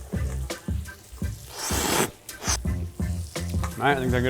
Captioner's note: slurps